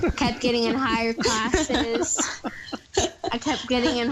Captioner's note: laughs